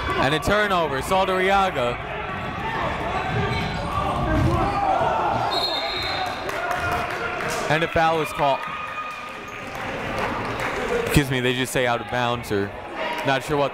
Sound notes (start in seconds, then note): 5.4 whistle blowing